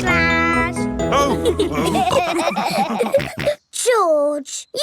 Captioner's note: all laughing